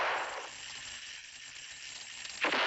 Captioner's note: gunshot